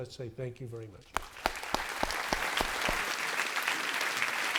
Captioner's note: applause